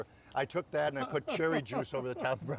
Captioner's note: chuckling